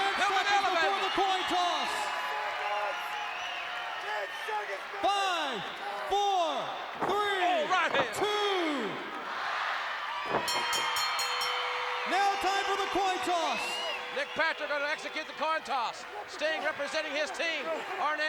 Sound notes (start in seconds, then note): 10.4 bell rings